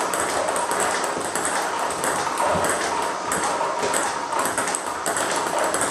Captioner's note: ball ping pong hitting continues